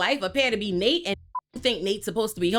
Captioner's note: beep